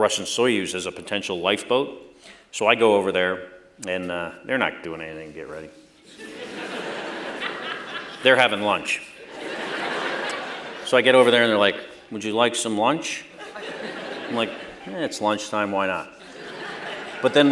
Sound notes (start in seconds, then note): 9.9 laughter